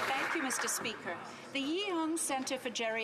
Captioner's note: some Applause